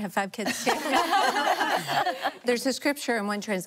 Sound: laughing

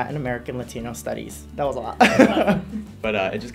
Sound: laughs

